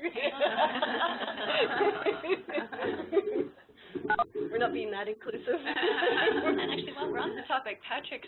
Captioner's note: laughter